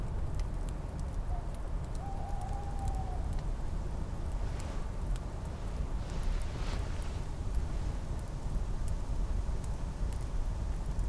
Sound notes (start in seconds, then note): 2.0 bird hoots again